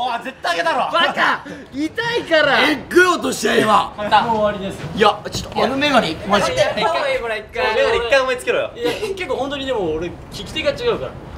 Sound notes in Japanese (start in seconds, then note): 2.3 巻き舌